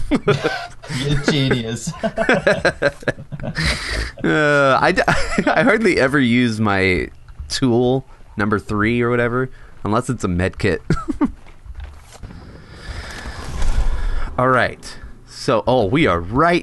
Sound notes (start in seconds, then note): 0.0 laugh; 2.1 laughter